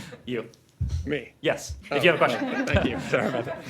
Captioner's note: laughter